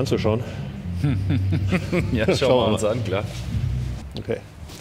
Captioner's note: laughs